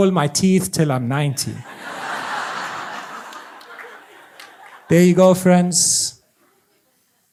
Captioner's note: audience laughs